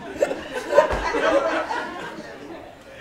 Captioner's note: laughing